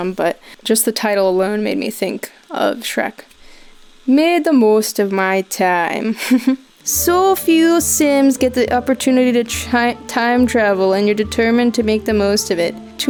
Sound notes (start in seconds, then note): 4.1 putting on scottish accent; 7.0 folk music